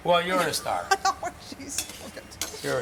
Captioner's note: laughing